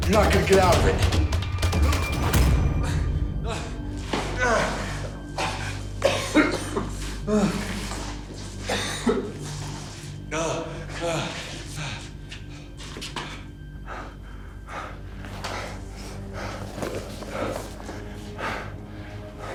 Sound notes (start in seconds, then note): 4.0 Kirk panting; 13.1 suspenseful music